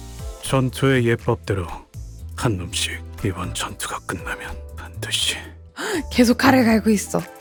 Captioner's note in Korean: 헉 소리